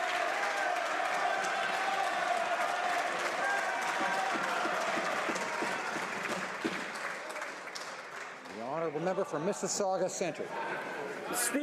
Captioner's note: some Applause